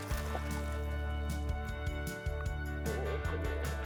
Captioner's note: water splashes